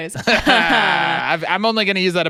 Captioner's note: laughing